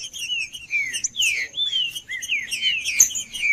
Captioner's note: trinca ferro cantando